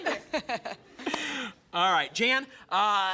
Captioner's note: laughs